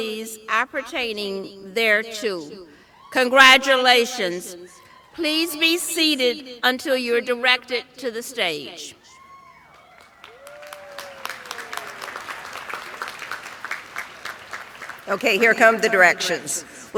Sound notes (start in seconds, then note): 9.7 applause